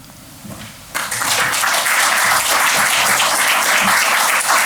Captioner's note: applause